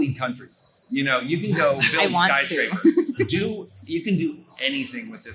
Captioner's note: laughs